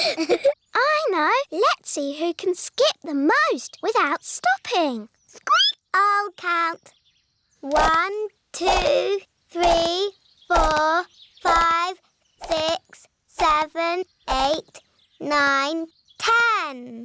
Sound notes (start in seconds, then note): 4.7 squeaks